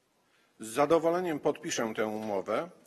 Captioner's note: speaking polish